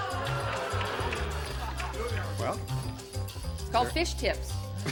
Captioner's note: laughter